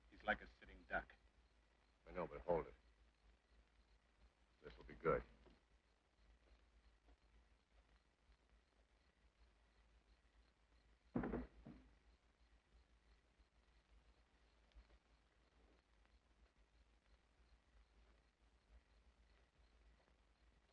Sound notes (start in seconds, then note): 6.0 crickets chirrup